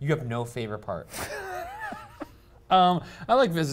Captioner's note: laughing